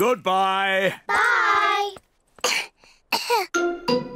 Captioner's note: both cough